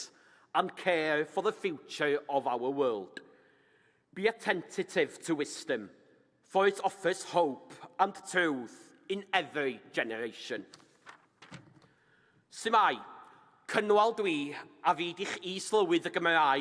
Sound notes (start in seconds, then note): none